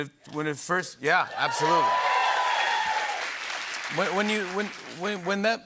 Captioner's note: cheers and applause